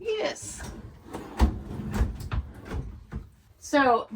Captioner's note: sliders thudding